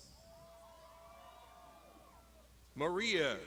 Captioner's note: crowd shouting